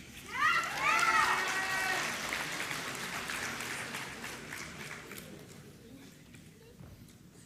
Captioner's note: applause